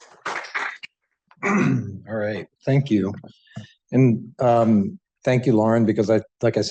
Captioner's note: applause; clears throat